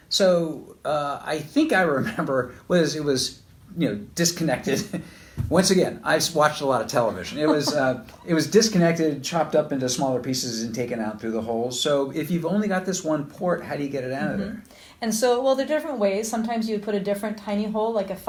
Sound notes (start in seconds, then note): 7.0 laughs; 7.0 chuckles